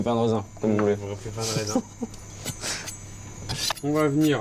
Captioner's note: laughs